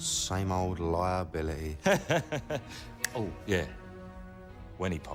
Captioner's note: laughs